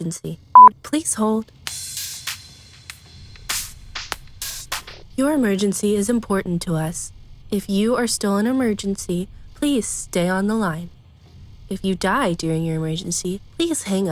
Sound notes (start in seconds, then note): 0.5 beep